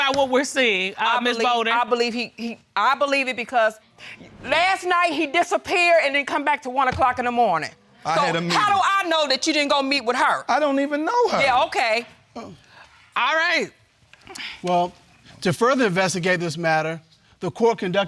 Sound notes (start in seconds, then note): none